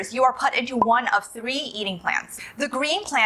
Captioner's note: bubble pops